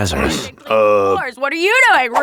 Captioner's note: clears throat